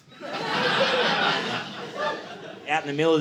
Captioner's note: audience laughing